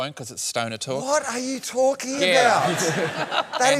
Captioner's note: laughter